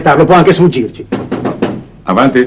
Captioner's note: knocking on door